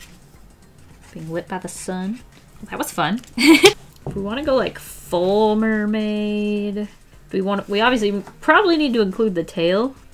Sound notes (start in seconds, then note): 3.4 laughs